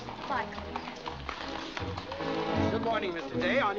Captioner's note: hooves trotting